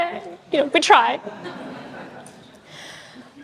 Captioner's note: audience chuckles